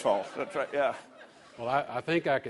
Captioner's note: laughter